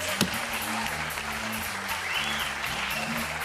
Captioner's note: laughter and applause